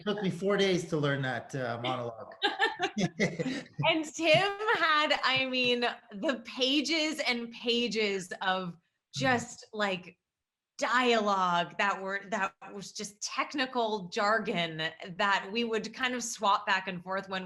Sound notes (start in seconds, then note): 2.4 Sarah laughs; 2.4 Tim laughs